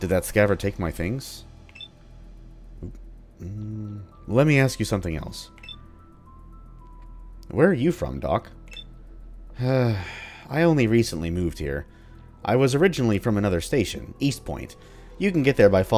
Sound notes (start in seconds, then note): 9.5 sigh